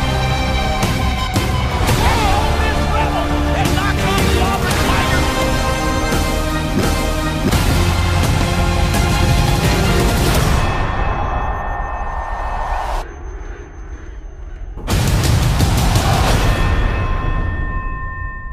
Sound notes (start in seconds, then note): 10.4 chime; 16.3 chime